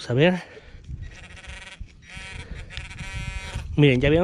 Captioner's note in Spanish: sonido y vibración del pin pointer